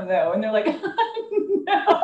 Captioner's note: laughter